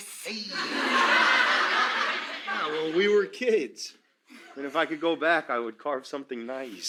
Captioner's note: crowd laughs